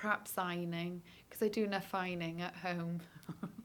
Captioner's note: laughs